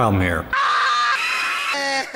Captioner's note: screaming